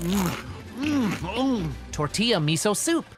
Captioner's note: chewing